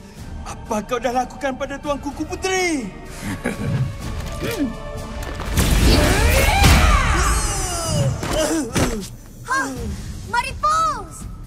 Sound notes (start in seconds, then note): 3.2 chuckles; 5.6 groaning; 5.8 yells